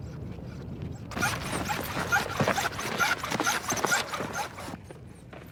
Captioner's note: objects clattering